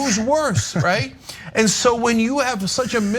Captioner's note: laugh